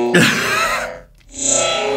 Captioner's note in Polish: śmiech